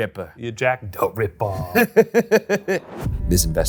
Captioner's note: laughs